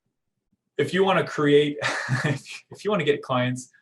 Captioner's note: chuckling